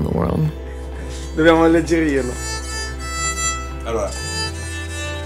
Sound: speaking Italian, violin music

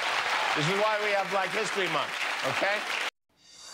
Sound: cheers and applause

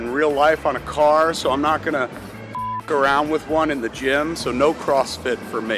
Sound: beep

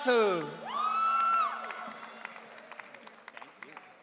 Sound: audience cheering

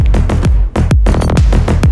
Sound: keys jingle

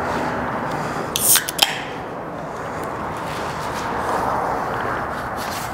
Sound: soda can popping

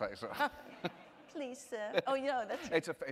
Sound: mocking british accent

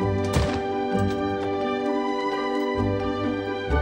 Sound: lock clicks; door opens

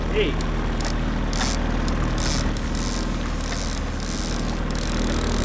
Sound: reel clicking in

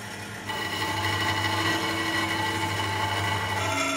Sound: cutting metal

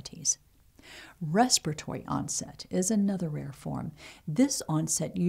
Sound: respiratory

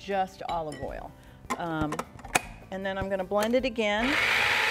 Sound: grinding noise

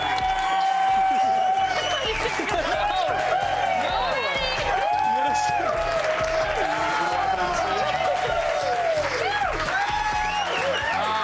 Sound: cheers and applause

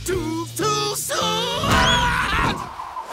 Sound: screaming

